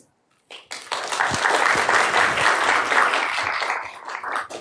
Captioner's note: applause